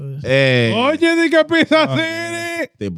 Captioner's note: speaking In Foreign Language